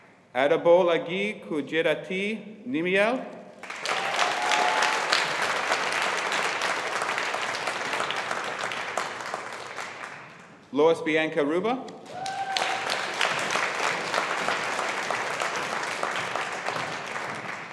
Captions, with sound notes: Adebolaji Kudirat Nimyel. (AUDIENCE APPLAUDING) Loise Bianca Ruba. (AUDIENCE APPLAUDING)